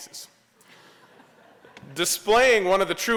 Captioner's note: laughter